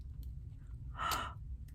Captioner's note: gasps